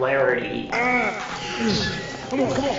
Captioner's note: grunting